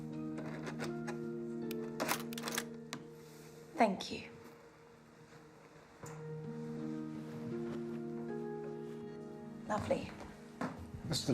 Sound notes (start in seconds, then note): 0.1 somber music; 2.1 camera clicks; 6.0 somber music